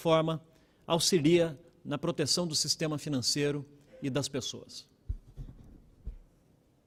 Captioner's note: speaking Portugese